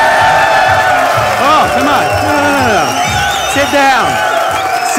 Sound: cheering

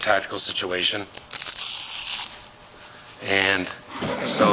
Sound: velcro separating

